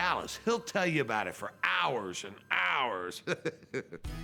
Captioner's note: laugh